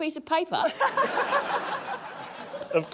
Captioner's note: laughter